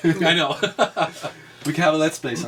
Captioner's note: laughs